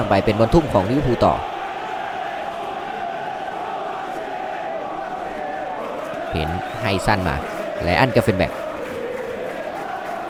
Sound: applause

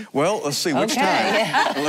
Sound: laughing

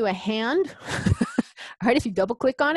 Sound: laughs

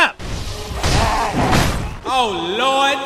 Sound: heavy slamming

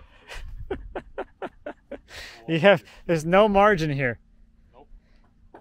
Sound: laughs

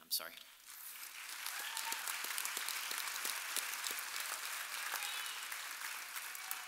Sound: audience applauding and cheering

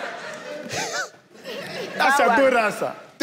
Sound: giggles

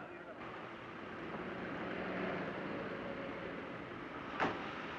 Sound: car engine idling; door slamming shut

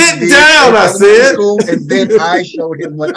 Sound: all laugh

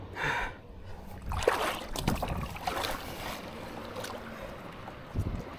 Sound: water splashing

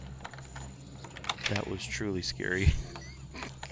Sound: laughs

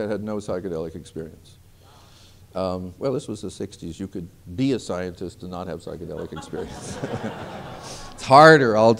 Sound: laughter

